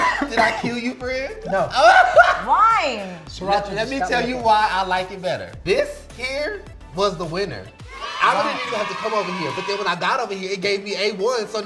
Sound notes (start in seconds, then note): 1.2 laughing; 7.8 cheering